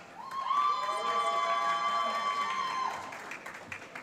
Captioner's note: applause